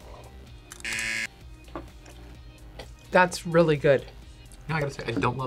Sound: buzzer

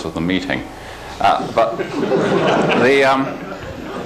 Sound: laughter

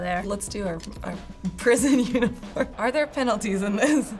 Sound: laughing

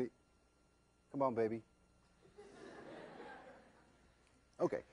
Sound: laughter

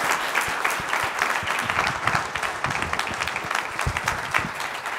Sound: audience applauding

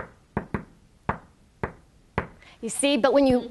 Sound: tapping

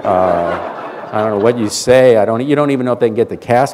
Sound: laughter

